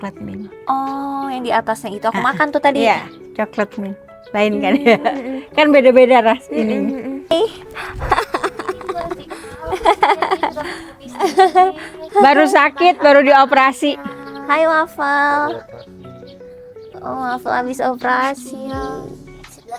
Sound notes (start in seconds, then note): 11.1 laughs